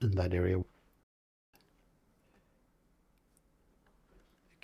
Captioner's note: silence